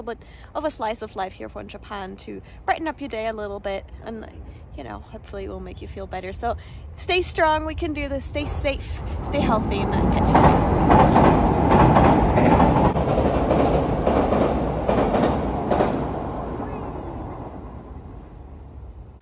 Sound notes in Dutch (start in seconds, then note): 12.9 trein geluid